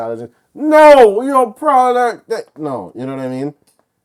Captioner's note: mumbles